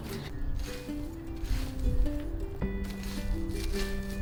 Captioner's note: すくいの音